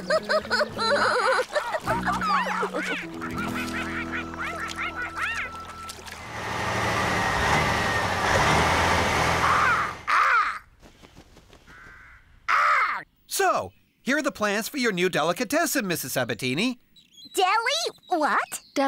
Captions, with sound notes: ( Laughing ) ( Quacking ) ( Engine Running ) ( Caw! Caw!...Caw! ) SO, HERE ARE THE PLANS FOR YOUR NEW DELICATESSEN, MRS. SABATINI. DELI--WHAT?